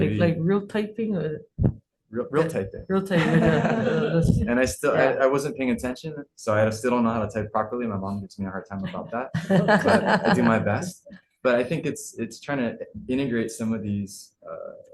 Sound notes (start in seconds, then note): 3.1 laughter; 9.3 laughter